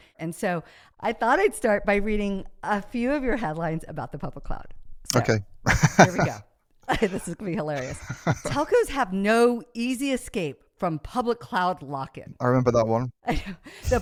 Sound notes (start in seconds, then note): 5.6 laughs